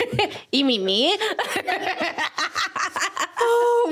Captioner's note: laughing